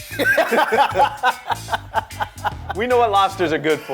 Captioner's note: both laugh